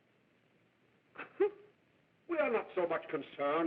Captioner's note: sobbing